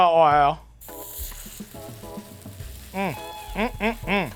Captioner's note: meat sizzling